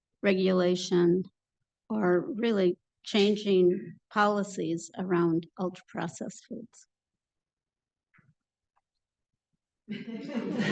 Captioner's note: pause, then laughter